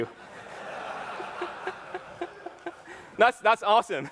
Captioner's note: laughter